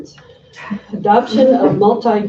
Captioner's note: laughing